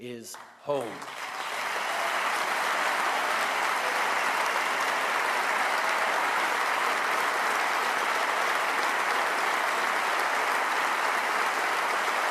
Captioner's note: applause